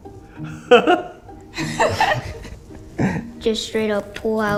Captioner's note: girl laughing